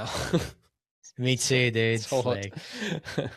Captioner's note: laughs